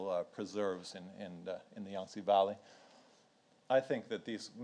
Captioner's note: speaks in foreign language